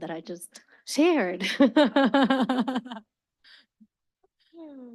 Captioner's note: laughs